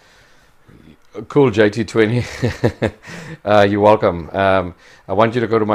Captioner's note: laughs